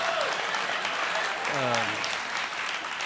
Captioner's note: applause